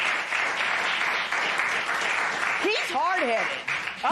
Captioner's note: applause